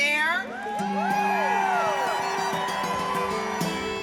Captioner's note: crowd cheering